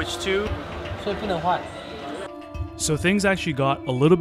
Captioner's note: speaking in Mandarin